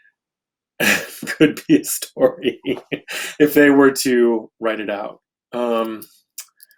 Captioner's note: laughs